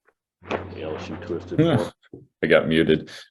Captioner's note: audio distorts